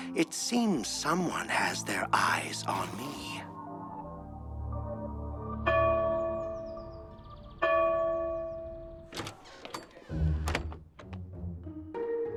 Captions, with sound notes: it seems someone has their eyes on me. [bells chiming] [suspense music]